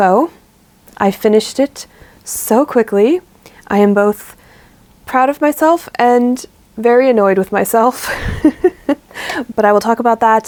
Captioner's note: laughs